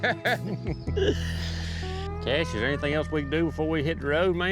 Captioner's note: laughter